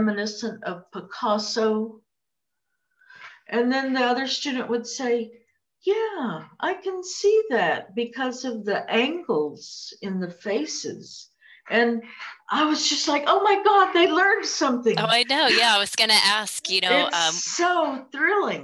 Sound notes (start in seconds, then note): 15.0 laughs